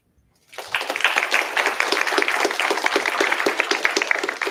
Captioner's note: applause